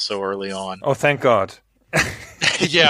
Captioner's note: laughs